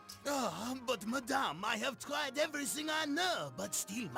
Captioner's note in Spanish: acento franés